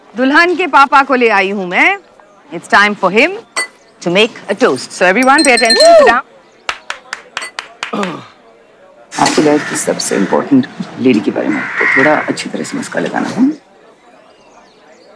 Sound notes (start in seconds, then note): 6.7 Woman clapping; 7.9 Rohit clearing his throat